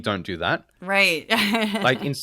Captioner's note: laugh